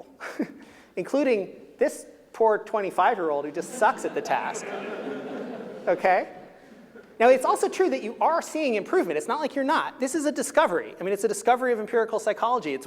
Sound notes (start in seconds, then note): 0.2 chuckling; 3.6 laughing